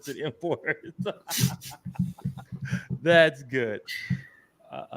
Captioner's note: laughs